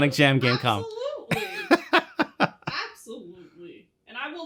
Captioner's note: laughs